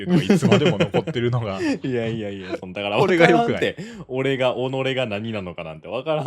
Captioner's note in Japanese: 笑い